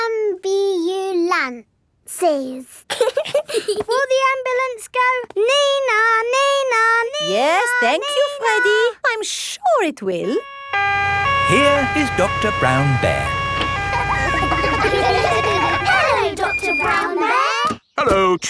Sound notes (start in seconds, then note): 2.9 both giggling; 10.4 siren wailing; 14.3 kids laughing